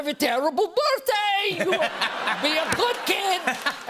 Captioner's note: laughter